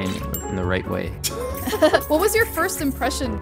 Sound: laughing amusingly

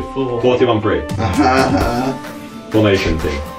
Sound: fake laughter

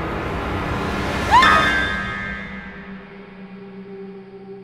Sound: scream; ominous music

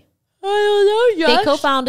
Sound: yawns

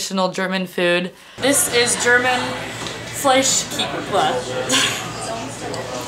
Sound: laughs

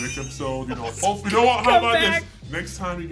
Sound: laugh

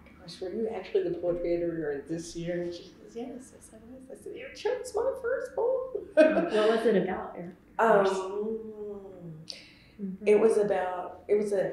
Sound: laughs

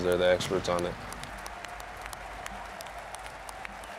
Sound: applause

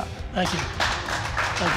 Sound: applause

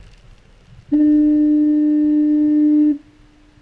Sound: foghorn

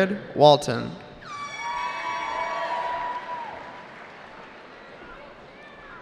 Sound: cheering

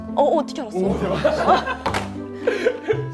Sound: laughs

